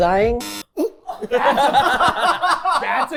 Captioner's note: everyone laughing